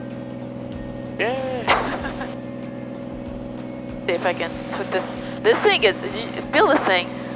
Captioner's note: chuckles